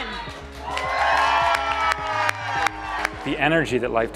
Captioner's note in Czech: audience cheering